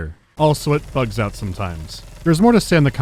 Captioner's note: brrrrrt